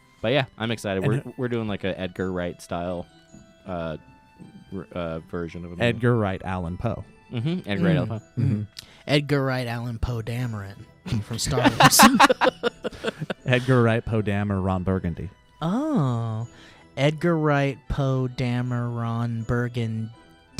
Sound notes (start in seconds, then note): 11.5 guys laughing